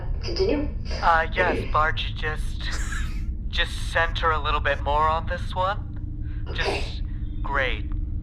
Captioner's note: over comms